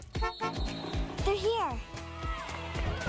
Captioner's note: Enclave honks